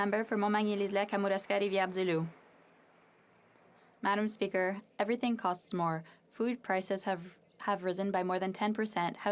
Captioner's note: some Applause